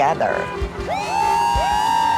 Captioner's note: crowd